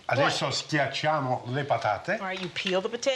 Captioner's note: speaking Italian